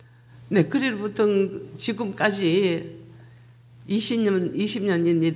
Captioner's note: speaking foreign language